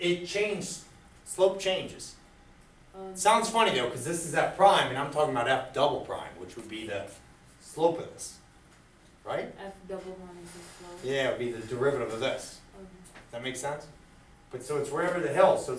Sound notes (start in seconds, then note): 10.1 voiceover; 10.8 speaks softly